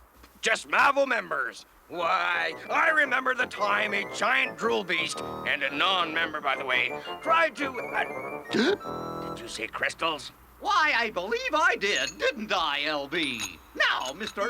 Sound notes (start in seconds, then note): 8.5 gasps